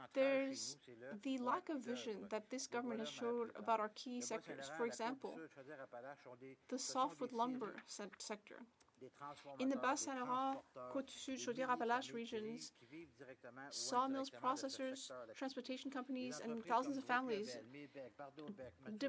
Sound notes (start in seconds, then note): 13.8 speaking French